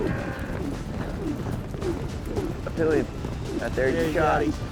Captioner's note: rope swirling